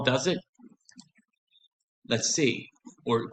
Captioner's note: silence